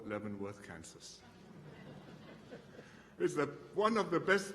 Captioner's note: laughter